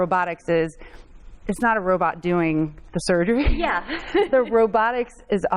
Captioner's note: laughs